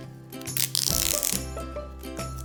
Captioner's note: gaffer tape rips